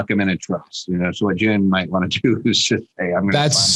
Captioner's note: laughs